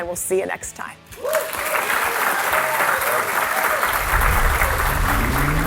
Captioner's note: applause